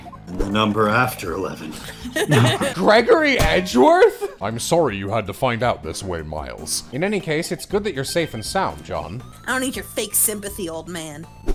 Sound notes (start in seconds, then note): 1.8 laughter